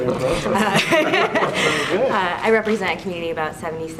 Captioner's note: laughs